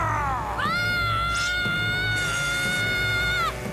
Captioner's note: screaming